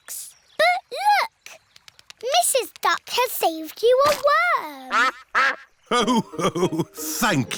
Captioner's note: quacks